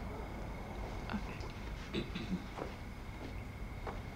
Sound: softly whispering

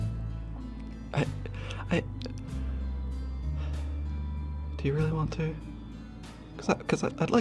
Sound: stuttering; sighs

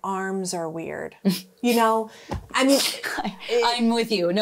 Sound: chuckling

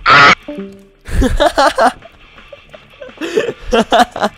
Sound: laught

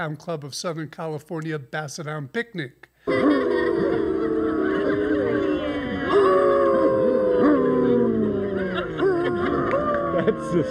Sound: howling

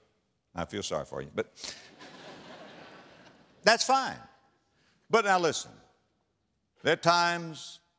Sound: audience laughter

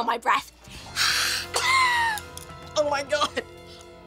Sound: coughing

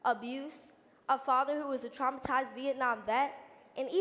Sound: none

